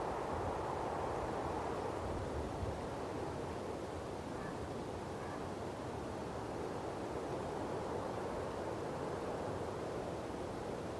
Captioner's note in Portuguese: barulho do mar